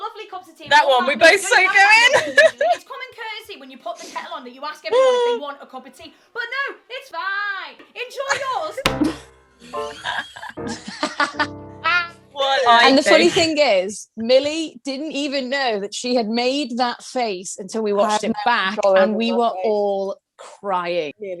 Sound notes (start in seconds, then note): 1.8 she laughs; 3.8 Sketch audio plays; 9.8 all laugh